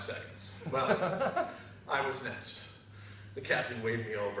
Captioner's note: laugh